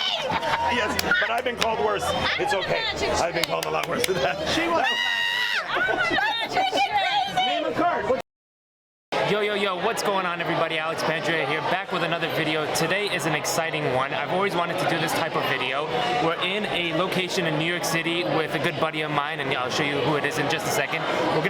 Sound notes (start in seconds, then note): 0.2 woman laughs; 0.9 claps hands; 3.3 claps hands; 4.8 woman screams